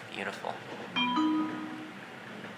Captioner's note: stop request sound